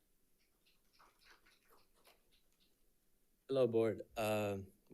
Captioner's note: audience applauding